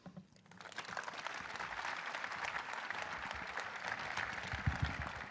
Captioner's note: audience applauding